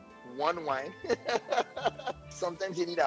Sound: chuckles

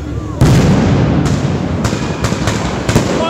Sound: very large explosion

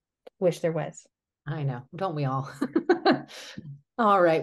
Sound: laughs

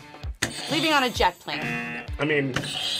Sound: buzzer rings; buzzer

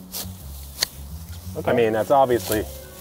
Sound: clippers snapping

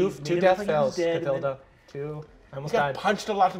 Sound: none

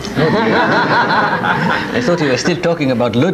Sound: audience laughs

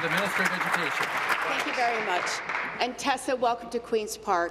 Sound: applause

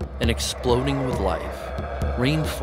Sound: monkey howling

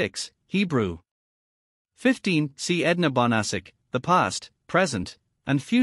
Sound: Hebrew

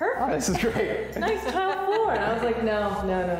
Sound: laughter

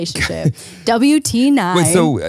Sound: laughs

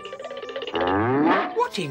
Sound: moo-woof!

